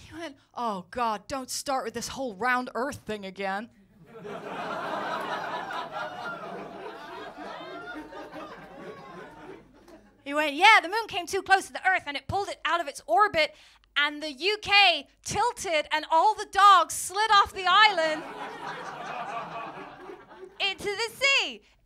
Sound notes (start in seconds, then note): 4.0 laughter